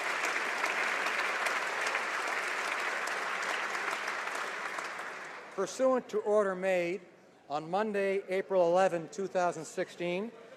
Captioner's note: applause